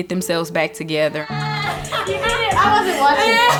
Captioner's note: laughs